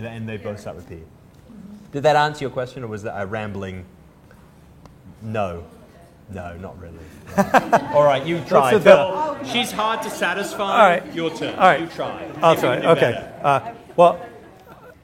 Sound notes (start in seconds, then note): 7.2 laughter; 12.8 laughs